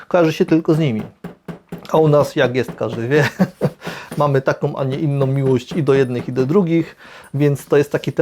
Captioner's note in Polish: śmiech